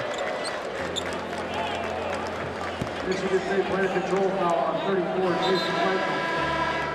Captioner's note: basketball game horns, squeaks and announcements